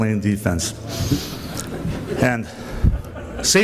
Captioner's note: faint laughter